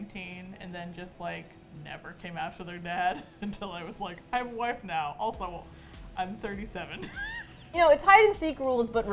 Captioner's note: laughs